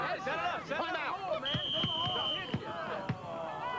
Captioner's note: whistle